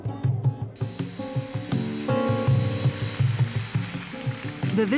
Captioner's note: plane engines revving